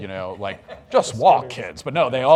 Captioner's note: audience laughs